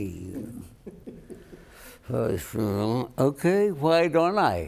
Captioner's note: chuckling